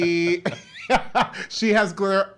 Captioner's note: laughs